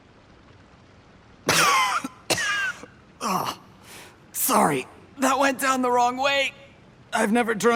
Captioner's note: coughing